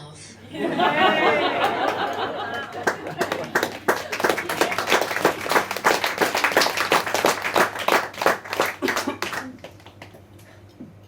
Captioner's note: audience laughs, claps and cheers